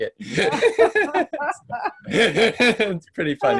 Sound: laughing

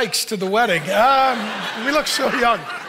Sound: audience laughing

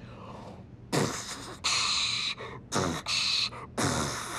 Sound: beatboxes

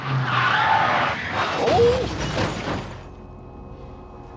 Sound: tires skidding; crash

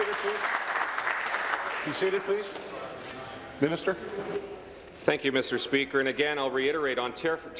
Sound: applause

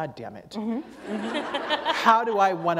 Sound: laughter

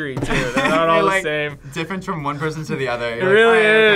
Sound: laughs

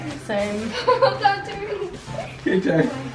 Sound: laughs

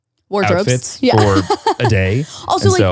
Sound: laughs

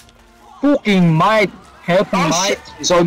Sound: australian gibberish

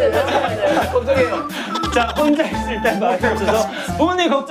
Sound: laughing

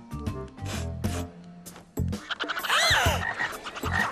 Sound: sniffing; gasping

